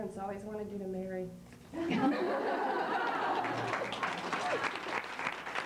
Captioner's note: laughter